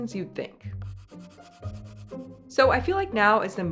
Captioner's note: playful music; pencil scratching